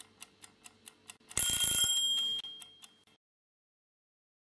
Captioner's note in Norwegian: klokka ringer